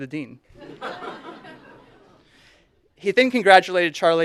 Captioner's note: audience laughing